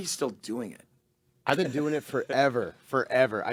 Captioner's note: laughing